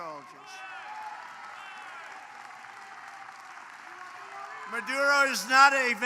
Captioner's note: applause